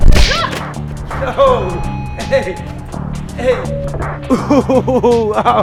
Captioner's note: laughing